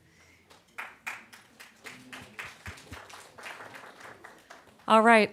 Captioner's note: applause